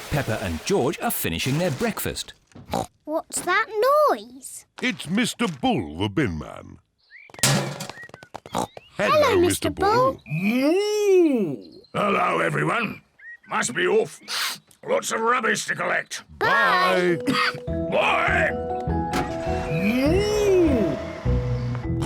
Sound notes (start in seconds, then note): 2.7 snorts; 7.4 bin clangs; 8.5 snorts; 21.8 snorts